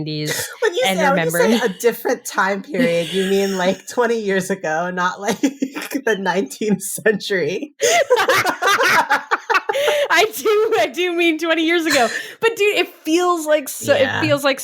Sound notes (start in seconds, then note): 7.8 both laughing